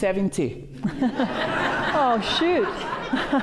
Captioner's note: laughter